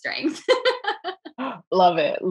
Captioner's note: laughing